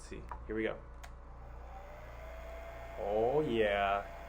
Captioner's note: dryer blows